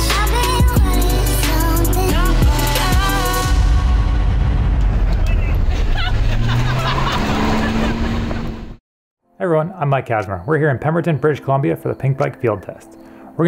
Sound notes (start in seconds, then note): 5.7 laughing; 6.7 engine revving